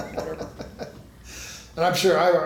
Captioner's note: laughs